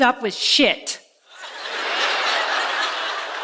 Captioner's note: laughter